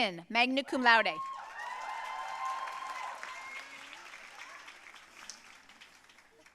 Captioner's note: audience cheering and applauding